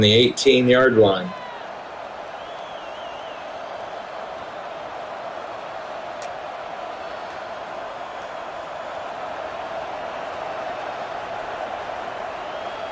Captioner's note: crowd cheering